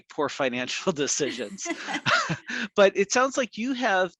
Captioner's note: both laughing